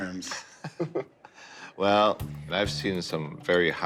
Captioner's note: laughs